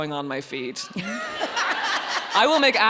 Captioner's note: audience laughs